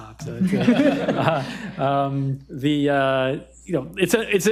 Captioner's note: audience laughing